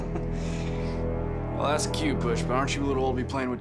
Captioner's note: sundance kid laughs